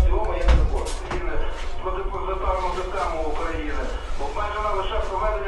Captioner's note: radio; radio